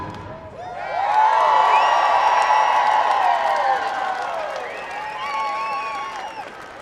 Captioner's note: audience cheering; audience applauding